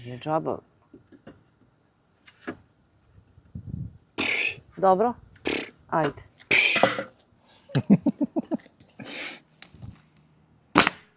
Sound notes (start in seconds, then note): 5.4 snort; 7.7 laughter